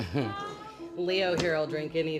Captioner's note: laughing